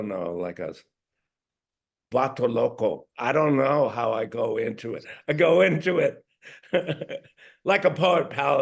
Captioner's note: spanish